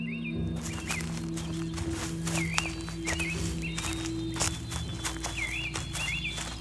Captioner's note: birds chirping; leaves crunching